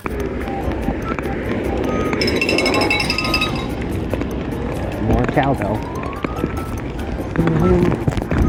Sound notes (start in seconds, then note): 2.2 encouraging bell